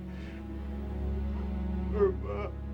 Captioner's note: crying